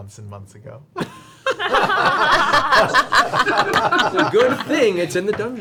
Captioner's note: all laugh